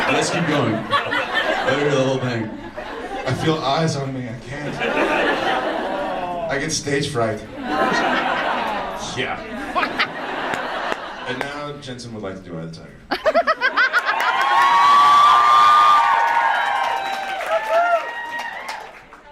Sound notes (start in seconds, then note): 4.9 audience laughs; 9.9 audience laughs; 13.1 audience laughs and cheers